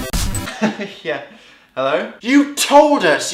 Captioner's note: laughing